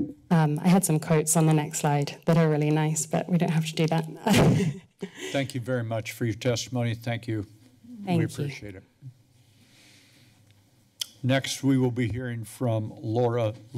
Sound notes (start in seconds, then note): 4.8 laughs